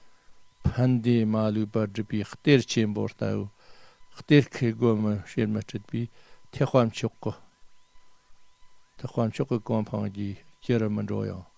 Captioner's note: tibetan